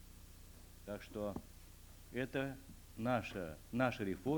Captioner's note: non-english speech